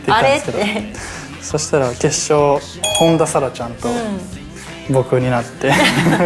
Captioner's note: laughs